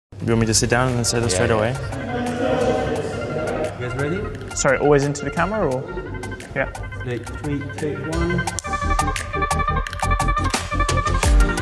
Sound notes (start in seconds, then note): 1.3 group chatter; 8.2 upbeat music